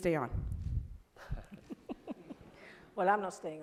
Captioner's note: laugh